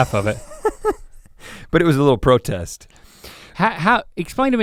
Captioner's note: chuckles